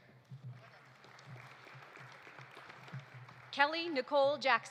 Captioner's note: audience applauding